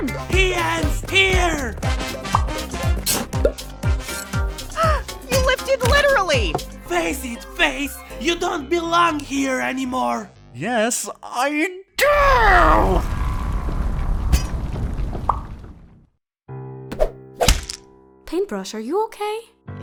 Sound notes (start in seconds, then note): 4.6 gasp; 13.0 rumbling; 17.4 loud whack